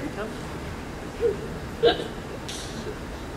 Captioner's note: laughs